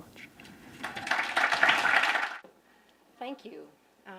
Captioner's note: applause